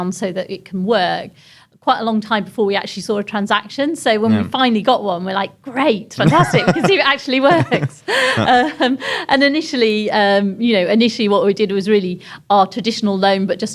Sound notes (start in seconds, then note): 8.4 laughs